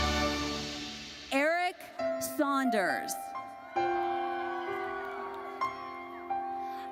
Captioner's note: audience cheers